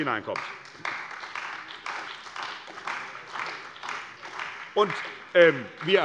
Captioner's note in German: Beifall bei der CDU und dem BÜNDNIS 90/DIE GRÜNEN